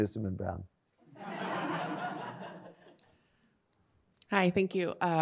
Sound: audience laughs

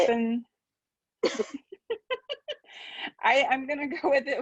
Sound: laughing

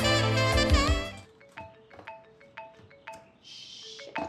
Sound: cell phone rings

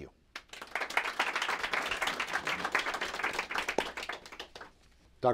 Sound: applause

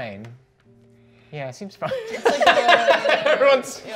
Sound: laughing

